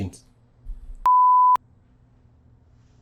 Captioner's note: long beep